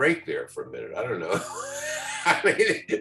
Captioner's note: laughs